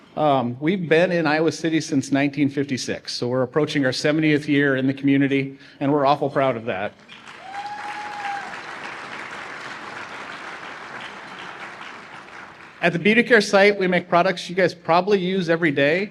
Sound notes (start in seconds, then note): 7.0 applause